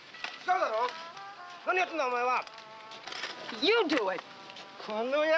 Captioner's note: shouting in Japanese